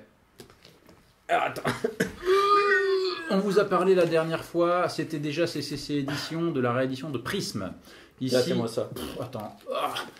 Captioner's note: french